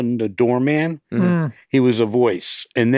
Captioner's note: hosts grunt softly